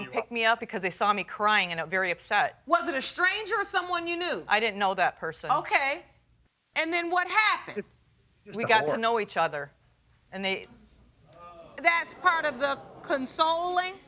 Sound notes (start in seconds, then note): 10.1 audience exclaiming